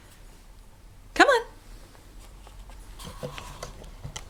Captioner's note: rustling noises